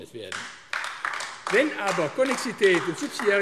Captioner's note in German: Beifall AfD